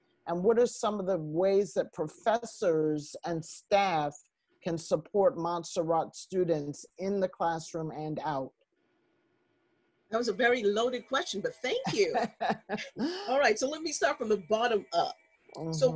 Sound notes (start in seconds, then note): 11.8 laughter